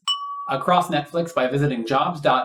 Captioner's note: ding!